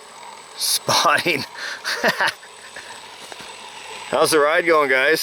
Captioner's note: laughing